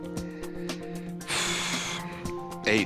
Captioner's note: exhales